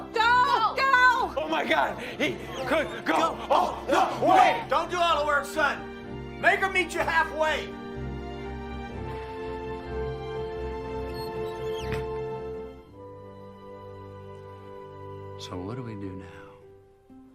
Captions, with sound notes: - Go! - Go, go! - Oh my God, he good go all the way. - Don't do all the work, son. Make her meet you halfway. (chair squeaking) (gentle music) - So what do we do now?